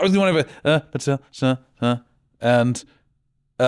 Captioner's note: counting and mumbling